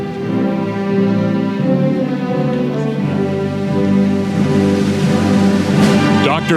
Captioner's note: none